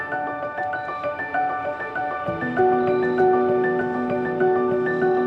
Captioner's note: insects chittering